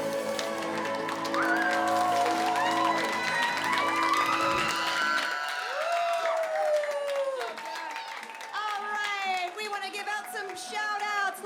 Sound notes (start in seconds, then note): 0.0 applause